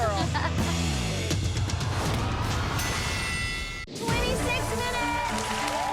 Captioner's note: bell dings